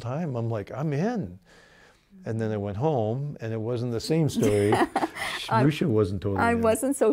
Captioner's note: laughing